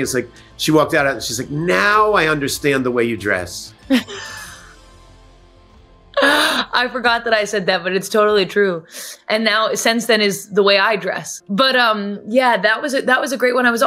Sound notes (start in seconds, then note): 3.9 laughs